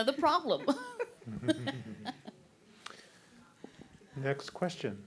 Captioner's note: all chuckling